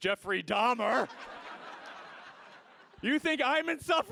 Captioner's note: audience laughs